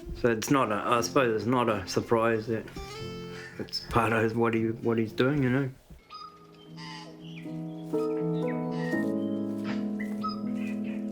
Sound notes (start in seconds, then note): 6.0 tui screeches; 7.9 soft piano music